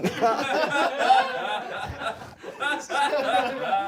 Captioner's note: everyone laughs